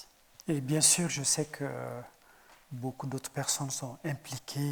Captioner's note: speaking in French